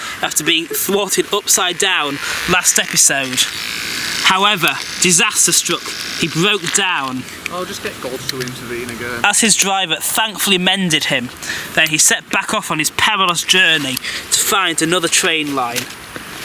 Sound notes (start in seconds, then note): 7.4 sarcastic murmurings